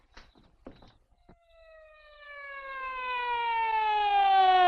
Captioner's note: siren blaring